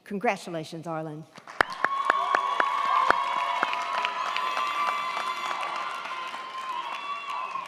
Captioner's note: crowd clapping; crowd cheering